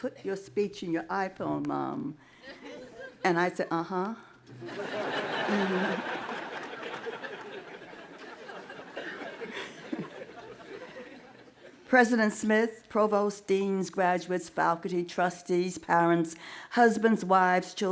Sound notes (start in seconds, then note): 4.6 laughing